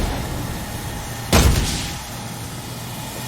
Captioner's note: whack